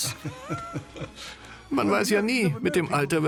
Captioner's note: laughing; voiceover